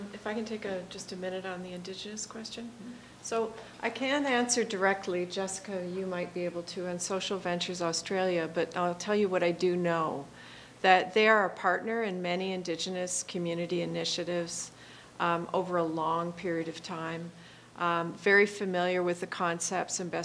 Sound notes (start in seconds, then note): none